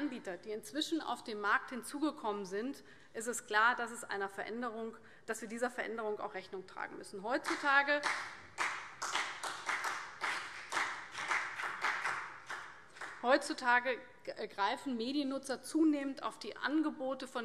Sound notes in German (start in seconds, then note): 8.5 Vereinzelter Beifall CDU und BÜNDNIS 90/DIE GRÜNEN